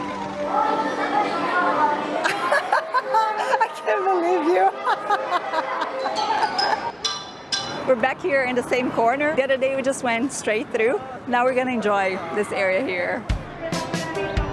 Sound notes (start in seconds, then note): 1.9 laughs